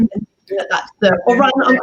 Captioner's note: laughs